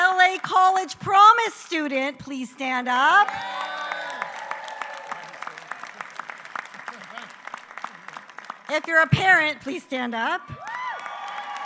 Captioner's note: applause